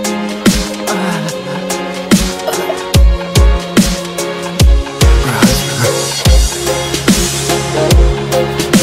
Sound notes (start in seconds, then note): 0.8 moan; 0.8 sound of dying